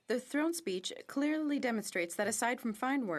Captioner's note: speaking French